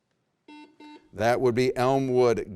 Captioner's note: buzzer rings